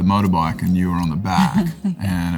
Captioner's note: Laura chuckles